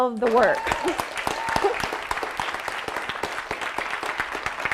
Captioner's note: audience applauding